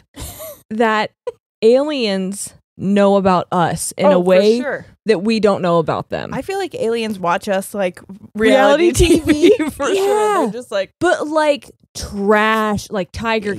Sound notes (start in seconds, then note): 10.1 laughs